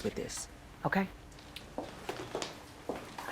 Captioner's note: footsteps